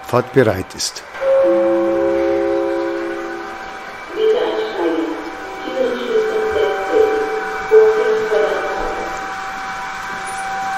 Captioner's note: gong and announcement